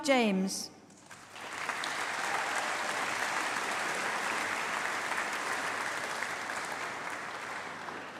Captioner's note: applause